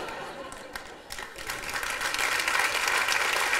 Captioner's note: applause